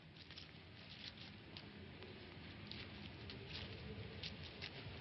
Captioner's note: grass rustling